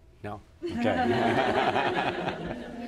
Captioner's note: laughter